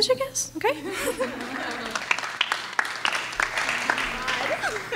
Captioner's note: clapping